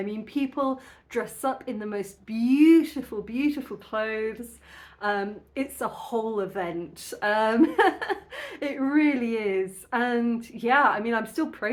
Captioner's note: laughing